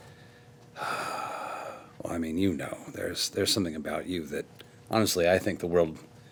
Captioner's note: sighing